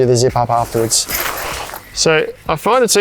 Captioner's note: metal parts jangling